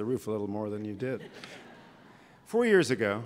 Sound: laughter

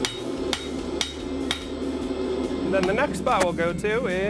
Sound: metal hammer hitting metal

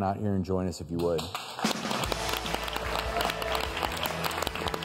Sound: audience claps

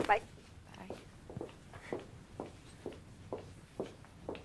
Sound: footsteps

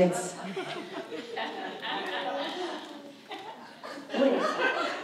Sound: audience laughs

